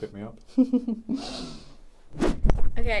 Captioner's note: laughs